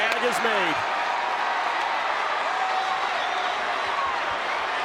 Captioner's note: audience cheering